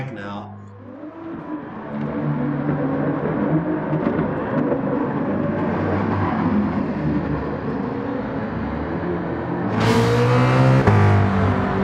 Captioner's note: engines revving, cars noises